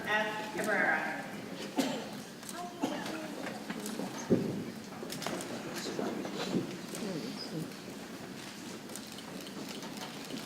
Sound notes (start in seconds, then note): 2.5 people chattering softly